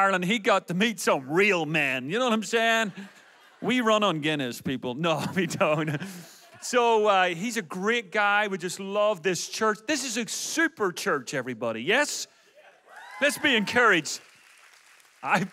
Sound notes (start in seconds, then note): 5.2 audience laughs; 12.8 audience cheers